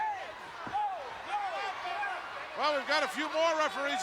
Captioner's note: referees shouting